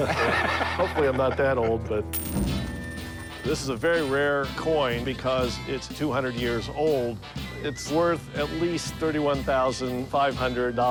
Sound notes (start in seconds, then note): 2.1 change rattling